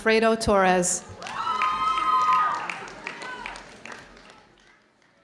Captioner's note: audience cheering